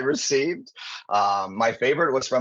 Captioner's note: chuckling